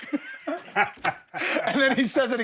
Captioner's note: Steve laughs